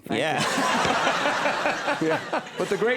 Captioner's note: audience and Conan laugh